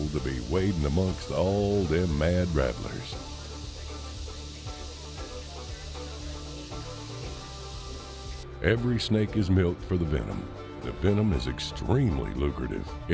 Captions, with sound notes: to be wading amongst all them mad rattlers. (snakes rattling) Every snake is milked for the venom. The venom is extremely lucrative.